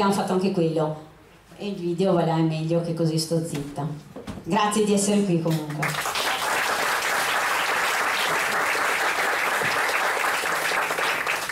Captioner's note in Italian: Applauso